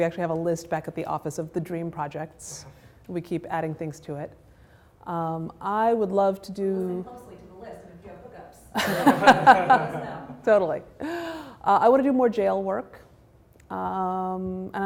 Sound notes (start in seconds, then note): 8.7 laughter